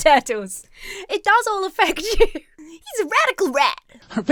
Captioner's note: laughs